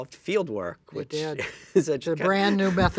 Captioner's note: laughs